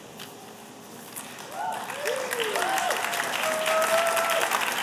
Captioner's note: applause